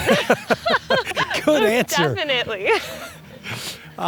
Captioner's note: laughter